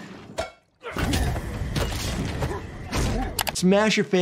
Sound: grunting, smashing

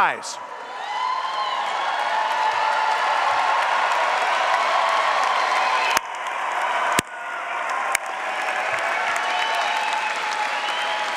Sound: applause

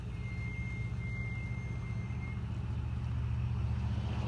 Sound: squealing of brakes; passing semi-truck

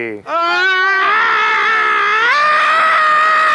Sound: screaming

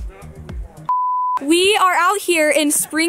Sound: beep

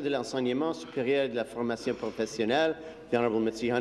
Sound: speaking in French

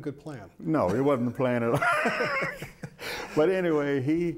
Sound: laughs

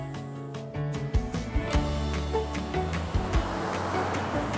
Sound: waves crashing

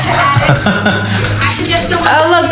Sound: Robin laughs; dad laughs

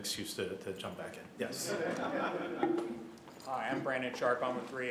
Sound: laughter

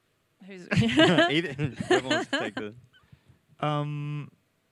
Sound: laughs

